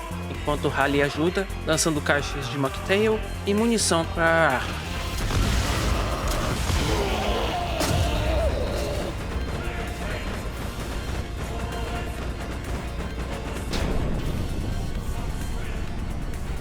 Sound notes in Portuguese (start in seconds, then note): 4.6 Explosões e Sons Monstruosos